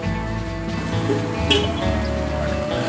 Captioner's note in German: Hupen